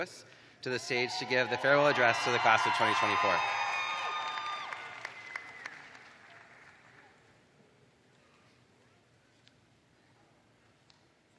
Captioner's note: cheers and applause